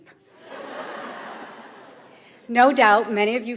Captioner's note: audience laughs